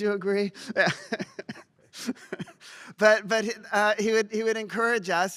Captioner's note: laughs